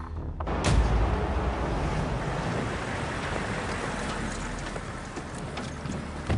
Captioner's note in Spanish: Sonido de los motores